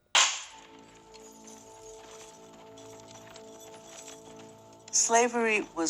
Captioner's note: whip cracks; somber music; chains jangling